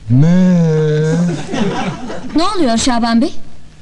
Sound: laughing

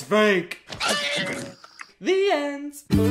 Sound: nom

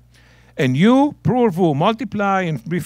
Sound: speaking in Hebrew

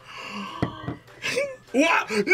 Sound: both gasp

